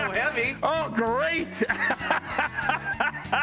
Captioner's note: laughs